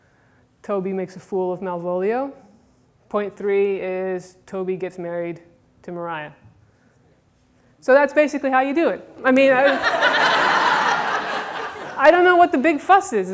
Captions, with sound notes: Toby makes a fool of Malvolio. Point three is Toby gets married to Mariah. So that's basically how you do it. I mean, [Audience laughter] I don't know what the big fuss is,